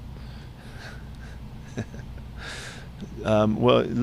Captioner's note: laughs